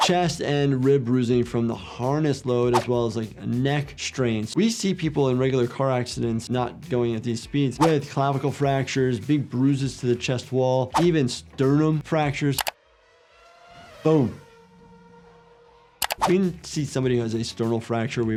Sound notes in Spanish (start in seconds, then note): 12.6 motor acelerando; 12.7 ruido sordo del vehículo